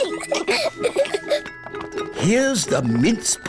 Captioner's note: both giggling